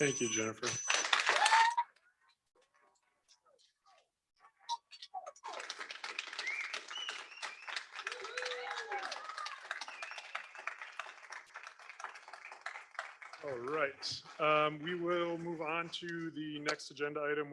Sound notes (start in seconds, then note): 0.6 audience applauds